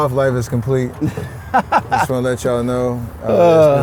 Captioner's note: laughs